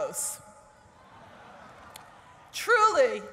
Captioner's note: laughter